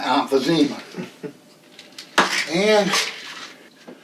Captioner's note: Bradley chuckles